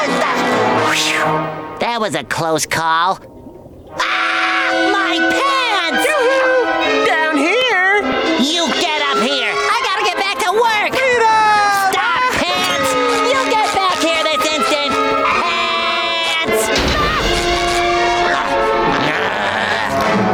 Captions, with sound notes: Whew, that was a close call. Ah! My pants! Yoo hoo! Down here! You get up here! I've got to get back to work! Freedom! Stop Pants, you get back here this instant! Paaants! [yelping] [grunting]